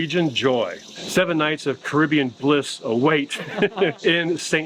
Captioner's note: chuckles